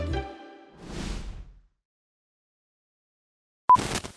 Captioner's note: upbeat music; logo whooshing